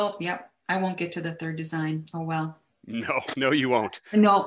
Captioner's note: laughs